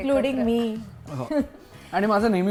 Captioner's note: chuckles